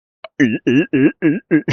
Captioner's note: laugh